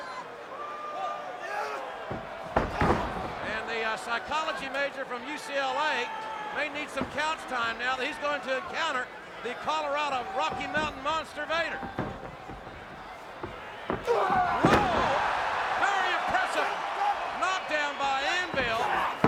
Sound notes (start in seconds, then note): 15.0 crowd cheering